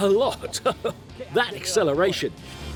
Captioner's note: chuckling